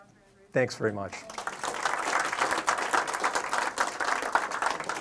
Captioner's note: audience clapping